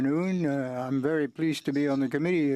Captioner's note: speaking french